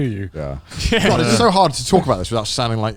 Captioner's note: laughs